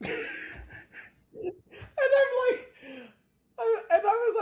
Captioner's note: laughs